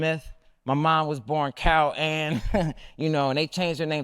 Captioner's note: laughs